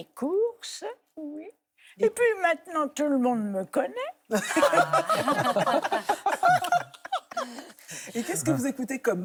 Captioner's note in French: rires